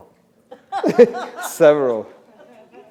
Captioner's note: laughter